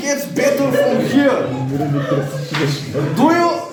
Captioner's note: laughing